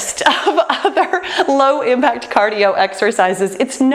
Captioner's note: laughs